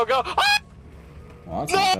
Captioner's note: cartoon scream